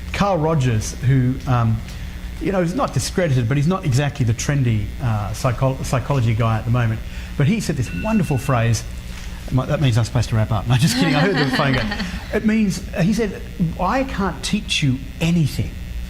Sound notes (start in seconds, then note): 7.9 phone rings; 10.7 laughs